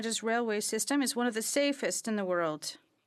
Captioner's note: speaking French